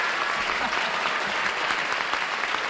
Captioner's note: applause